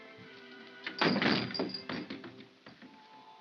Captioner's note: door shuts hard; soft whimsical music